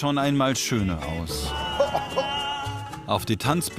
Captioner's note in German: Husten